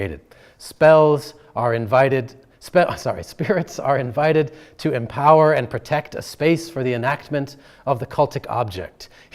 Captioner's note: chuckling